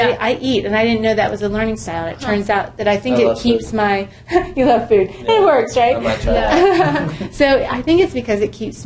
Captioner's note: laugh